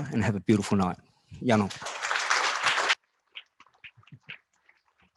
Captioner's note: applause